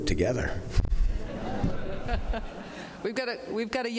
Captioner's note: laughter